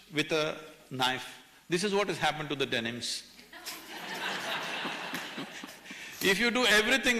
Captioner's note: laughter